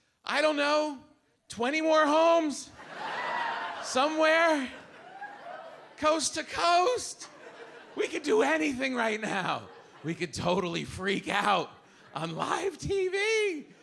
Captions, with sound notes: I don't know, 20 more homes, (audience laughs) somewhere coast to coast. We could do anything right now. We could totally freak out on live TV.